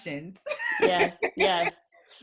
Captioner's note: laughs